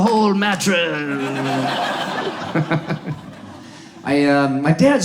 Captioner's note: audience laughs